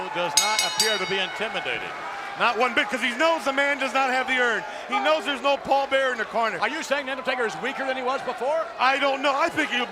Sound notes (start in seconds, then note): 0.3 bell rings